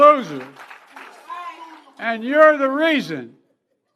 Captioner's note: cheers & applause